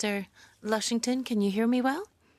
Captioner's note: speaking in French